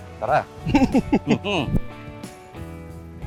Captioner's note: both are chuckling